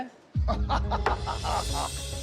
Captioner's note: laughs